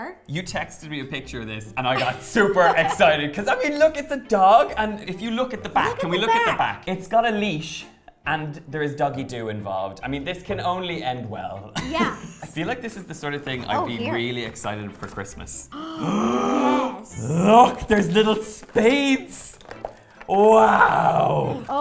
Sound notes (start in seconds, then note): 15.7 gasp